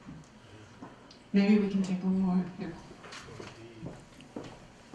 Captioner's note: voiceover